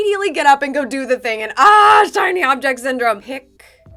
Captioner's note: shouts